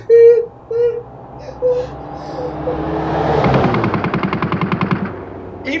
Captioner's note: car speeding past and machine gun fire